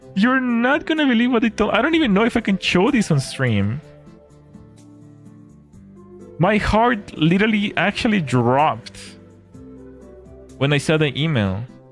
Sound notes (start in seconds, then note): none